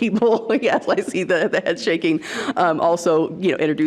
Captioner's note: laughs